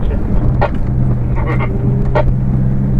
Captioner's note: dislike that idea sound